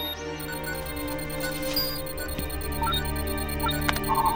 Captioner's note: beeping